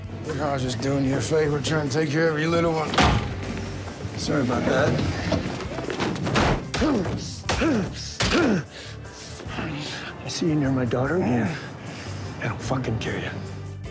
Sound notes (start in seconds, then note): 3.0 thump; 7.4 grunting